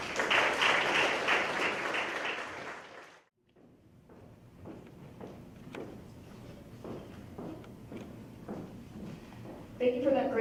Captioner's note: applause